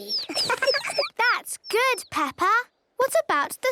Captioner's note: tweets